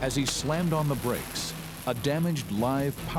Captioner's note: electricity zapping